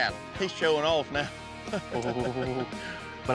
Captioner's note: chuckles